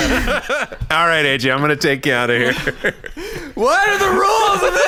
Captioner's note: screaming